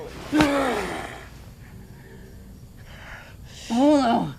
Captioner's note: Bolo groans